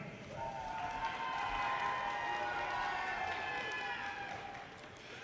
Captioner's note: audience cheers and applause